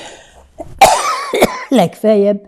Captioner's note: coughing